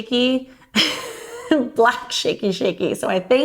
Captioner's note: laughing